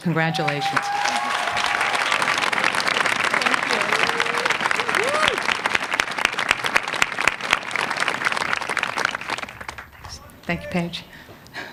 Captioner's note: applause